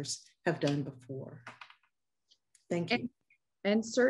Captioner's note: pages cluttering